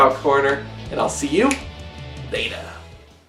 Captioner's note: snaps